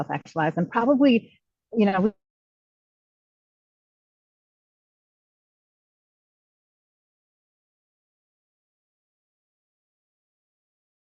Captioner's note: sound cut out